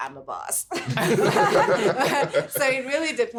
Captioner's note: everyone laughing